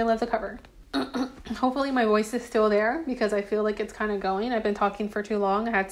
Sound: clears throat

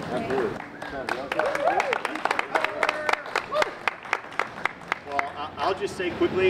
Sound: applause

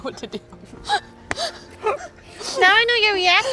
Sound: laughing

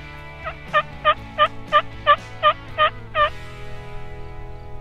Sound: turkey call noise

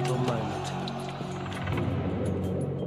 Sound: men shouting; suspenseful music

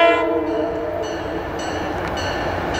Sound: bell

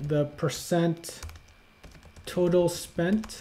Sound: keyboard tapping

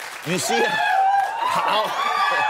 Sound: cheers and applause

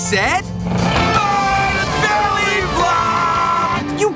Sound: both screaming

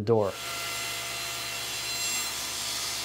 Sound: saw zings

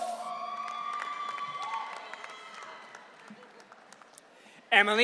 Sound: audience cheering

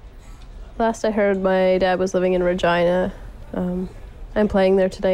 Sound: none

